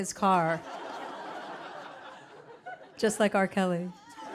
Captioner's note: audience laughing